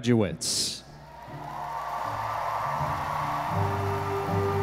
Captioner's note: audience applauding